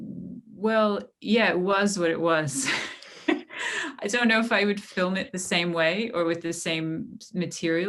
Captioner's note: laughter